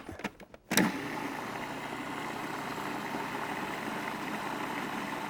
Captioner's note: food processor whirs